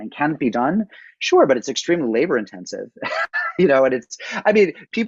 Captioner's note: laughs